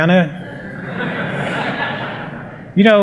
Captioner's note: laughter